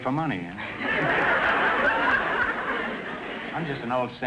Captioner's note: audience laughter